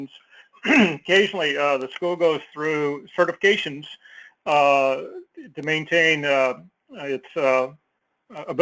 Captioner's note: cough